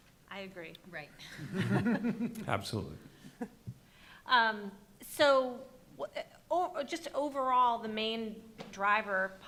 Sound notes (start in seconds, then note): 0.0 chuckling; 1.4 chuckling